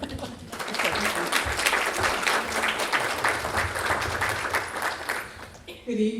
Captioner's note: applause